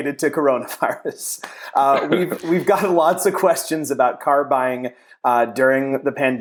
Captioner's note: laughs